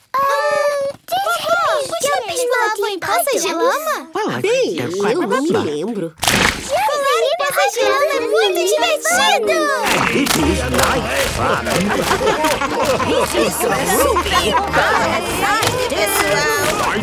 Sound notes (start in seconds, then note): 12.2 laughing